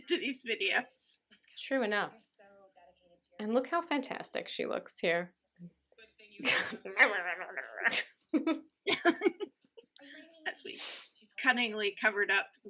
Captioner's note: laughter; imitates grumbling